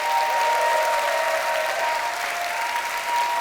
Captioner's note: applause